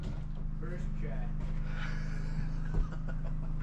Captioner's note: door slams